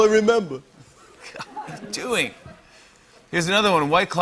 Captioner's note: scoffs